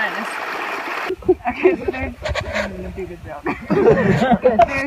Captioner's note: laughing